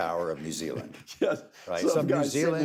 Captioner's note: laughs